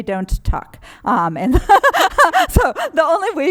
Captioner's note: laughter